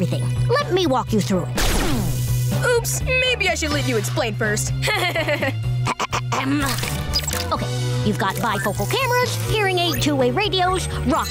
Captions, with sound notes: Let me walk you through it. Oops. Maybe I should let you explain first. [laughing] [clearing throat] Okay. You've got bifocal cameras, hearing-aid two way radios, rocket dentures,